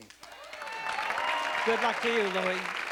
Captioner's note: applause